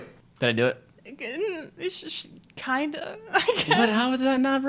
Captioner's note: stammering; laughs